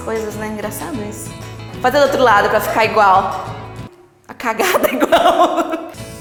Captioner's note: laughs